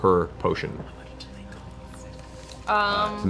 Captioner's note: whispered